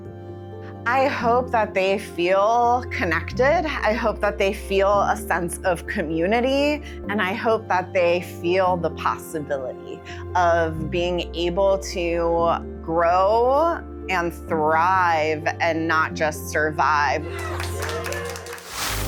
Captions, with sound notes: I hope that they feel connected, I hope that they feel a sense of community, and I hope that they feel the possibility of being able to grow and thrive and not just survive. [Cheering and applause]